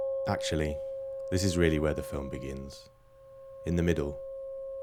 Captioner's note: none